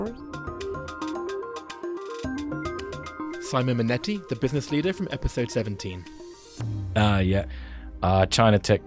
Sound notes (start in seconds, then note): 0.7 voiceover